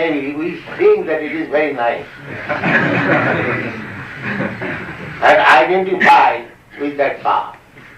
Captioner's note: laughter